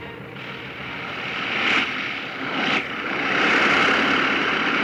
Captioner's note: airplane motor whirring